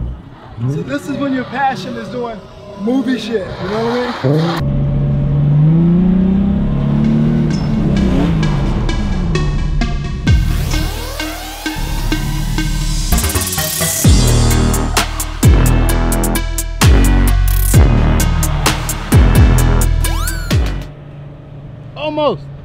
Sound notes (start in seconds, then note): 8.2 car engine revving; 8.2 upbeat rap music